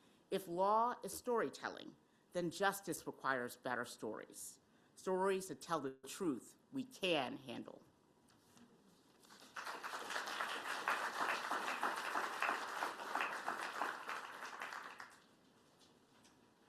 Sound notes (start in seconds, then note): 9.2 applause